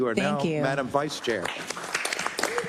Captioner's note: applause